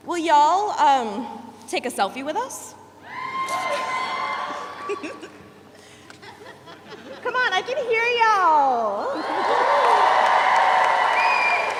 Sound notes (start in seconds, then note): 3.1 audience cheers; 4.5 chuckles; 9.1 audience cheers; 10.8 audience whistles